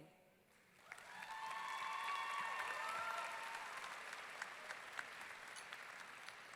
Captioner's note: audience clapping and cheering